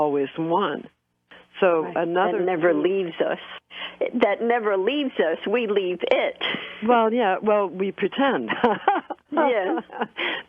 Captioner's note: laughter